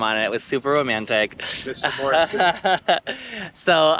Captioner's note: giggles